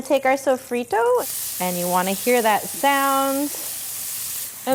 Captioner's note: pan sizzling